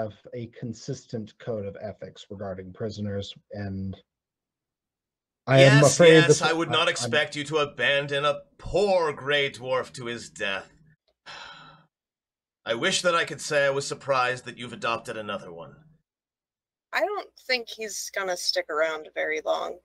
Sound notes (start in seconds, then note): 11.2 sighs